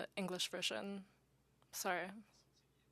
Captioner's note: speaking French